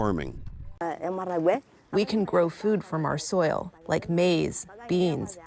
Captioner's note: through translator